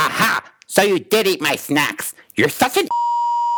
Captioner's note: beep